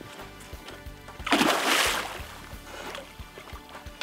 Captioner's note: splash